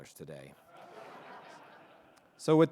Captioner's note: audience laughing